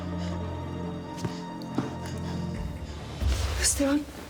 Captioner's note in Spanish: sollozos